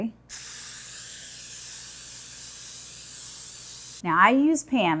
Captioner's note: spray can hissing